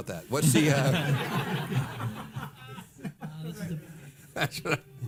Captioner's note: audience laughing